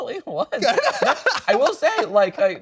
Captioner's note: laughing